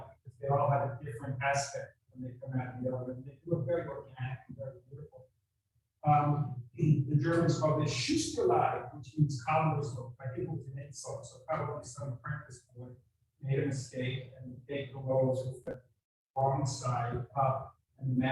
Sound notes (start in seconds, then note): 7.5 speaking in a foreign language